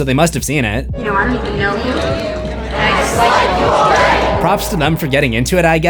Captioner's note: crowd